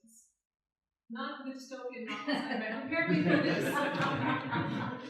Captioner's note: laughter